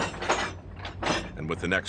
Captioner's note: metal crashing